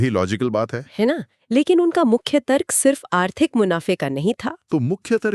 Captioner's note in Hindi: नाक से की जाने वाली आवाज़